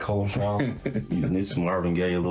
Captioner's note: laughs